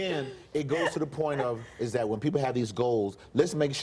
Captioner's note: laughter